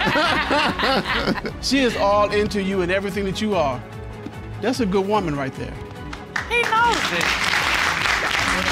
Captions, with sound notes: I know that look. (ALL LAUGHING) She is all into you and everything that you are. That's a good woman, right there. He knows it.